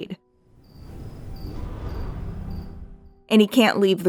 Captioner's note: quiet wooshing sound